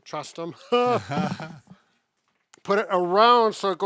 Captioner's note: chuckling